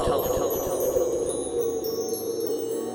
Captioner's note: tinkling chimes, wind